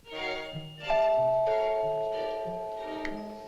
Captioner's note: doorbell rings